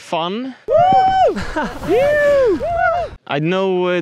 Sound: joyful hollering

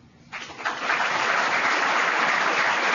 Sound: applause

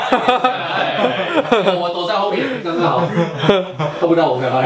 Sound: laugh

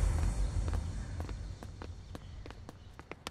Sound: footsteps

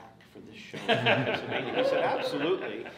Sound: everyone laughs

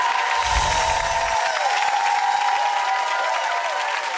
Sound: audience cheering; chimes tinkling

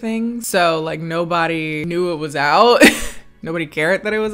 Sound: chuckles

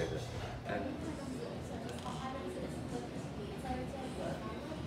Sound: people chattering

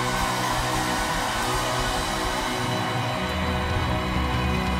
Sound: crowd cheers

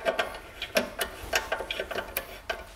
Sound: clattering

